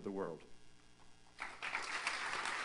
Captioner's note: applause